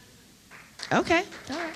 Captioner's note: applause